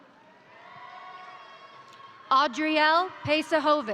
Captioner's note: crowd cheering; crowd applauding